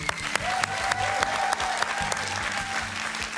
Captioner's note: cheers and applause